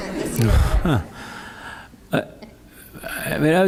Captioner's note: laughter